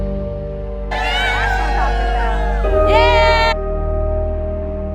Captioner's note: cheers